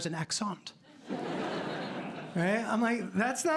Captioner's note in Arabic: ضحك